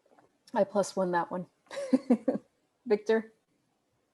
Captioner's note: laughs